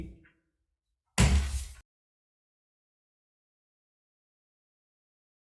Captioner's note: gavel banging